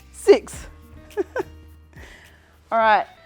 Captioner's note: laughter